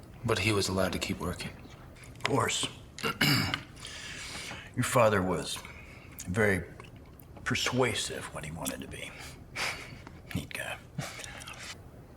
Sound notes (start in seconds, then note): 9.5 chuckles